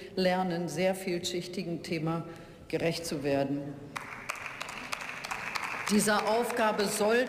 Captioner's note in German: Beifall